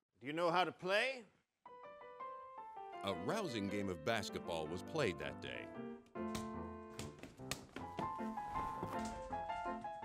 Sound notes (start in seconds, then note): 3.2 voiceover